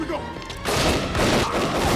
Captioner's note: gunfire clattering; gangsters groaning